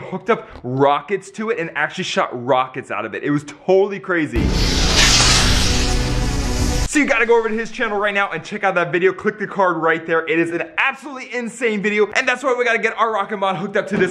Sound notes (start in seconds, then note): 4.4 rocket whirring